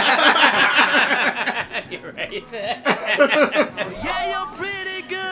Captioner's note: laughter